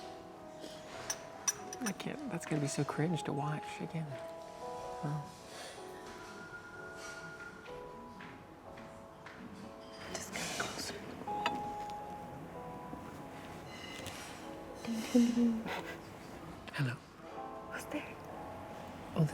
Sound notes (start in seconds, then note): 15.1 laughing